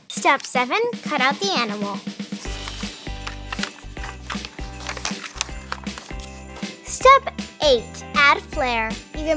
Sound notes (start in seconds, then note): 2.4 paper cutting; 2.4 upbeat music